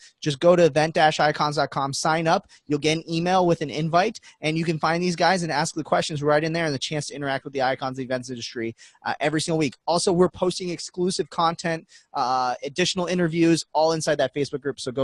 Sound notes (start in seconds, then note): none